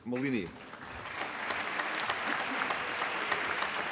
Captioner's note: applause